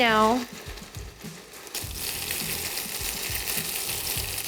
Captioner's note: oil sizzling